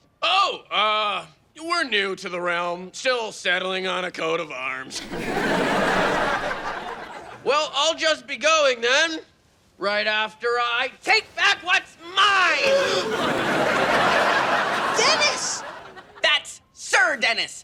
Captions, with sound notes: - Oh, we're new to the realm, still settling on a coat of arms. (audience laughing) Well, I'll just be going then. Right after I take back what's mine. (gasping) (audience laughing) - Dennis! - That's Sir Dennis.